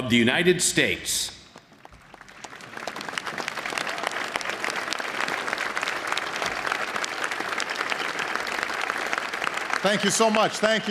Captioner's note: applause